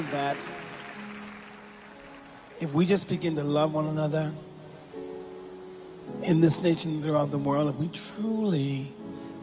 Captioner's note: applause